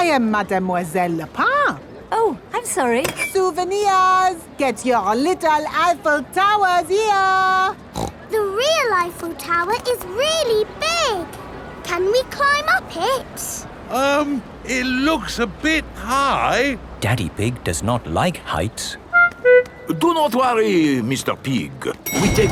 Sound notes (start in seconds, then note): 7.9 snorts